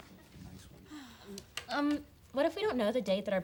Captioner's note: student sighs